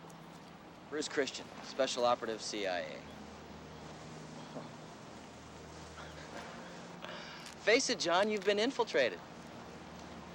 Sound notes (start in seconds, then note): 4.7 Captain laughing